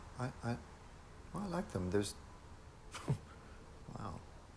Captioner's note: chuckles